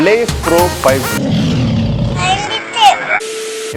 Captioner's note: lion's roar